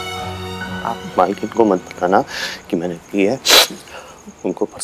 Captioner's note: Sniffs